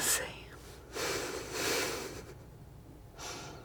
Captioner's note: sniffing